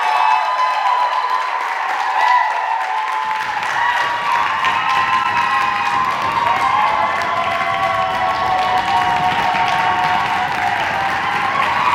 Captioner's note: audience clapping and cheering. faint music